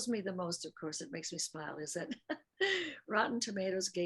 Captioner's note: chuckles